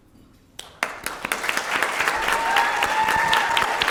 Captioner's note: applause